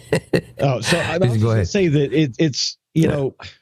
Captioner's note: laughing